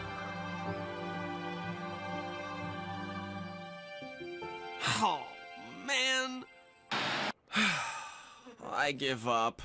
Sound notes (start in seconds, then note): 4.8 sighing; 7.4 Duncan Sighing